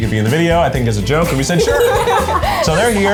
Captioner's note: students laugh